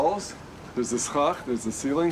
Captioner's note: speaks in foreign language